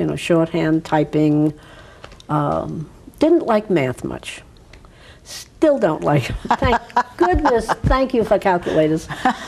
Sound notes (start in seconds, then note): 6.3 laughs